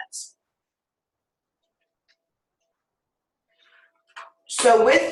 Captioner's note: silence